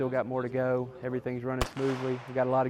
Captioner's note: gun fires